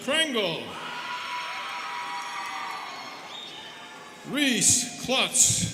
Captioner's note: students cheering